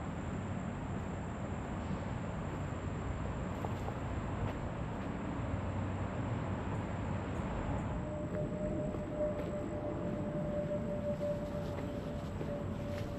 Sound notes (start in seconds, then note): 9.9 aircraft sounds